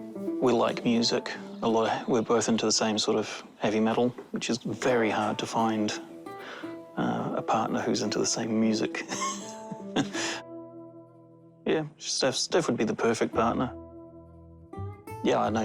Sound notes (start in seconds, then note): 9.0 chuckles